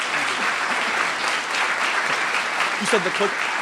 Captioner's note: applause